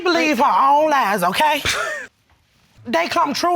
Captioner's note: chuckles